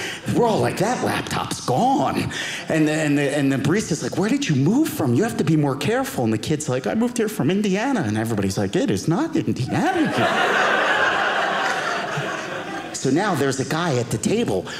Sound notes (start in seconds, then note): 9.7 audience laughing